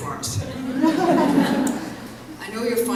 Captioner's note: laughter